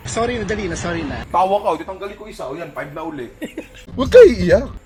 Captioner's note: laughs